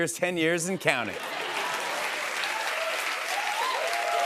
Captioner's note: laughter and applause